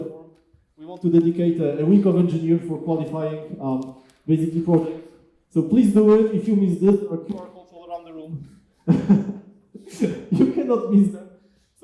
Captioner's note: laughs